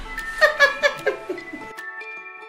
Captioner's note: laughs; happy music